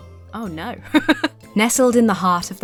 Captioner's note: laughs